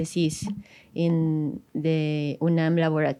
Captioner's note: speaks in foreign language